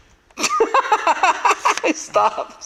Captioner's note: laughs